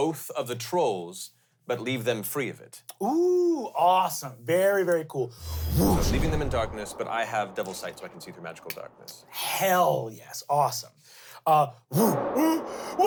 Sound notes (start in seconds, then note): 5.4 whooshes